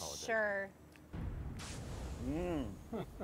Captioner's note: branding iron sizzles; laughing